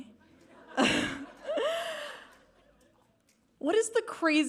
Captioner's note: all laughing